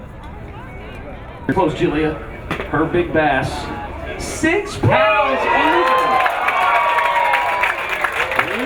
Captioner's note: audience cheers and claps